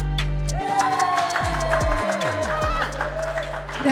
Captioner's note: cheering; clapping